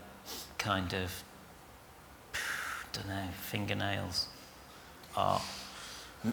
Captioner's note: he exhales